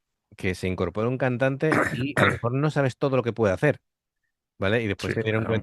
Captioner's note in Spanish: carraspeo